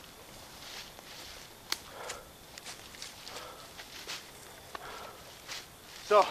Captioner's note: leaves rustling; steps; panting